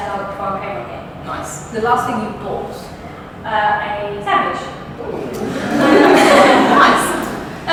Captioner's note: audience laughs